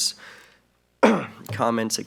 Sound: sneezing loudly

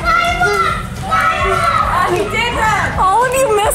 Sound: excited screaming

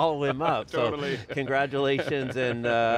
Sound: laughing

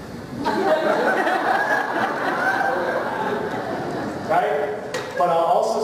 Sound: laughter

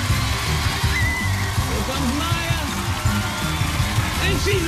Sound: screaming

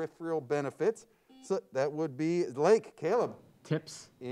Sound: buzzer sounds

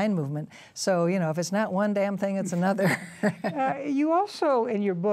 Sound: laughs

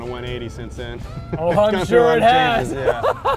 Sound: laughs

